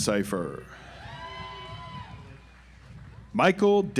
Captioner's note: audience applauds